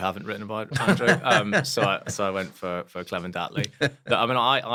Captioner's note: laugh; laugh